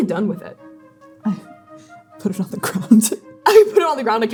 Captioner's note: laughing